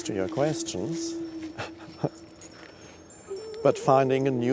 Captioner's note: laughs